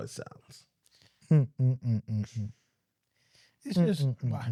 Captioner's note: humming